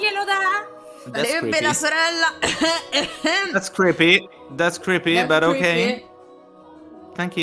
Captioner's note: cough cough